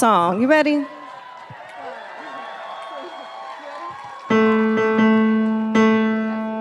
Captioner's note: audience applauding and cheering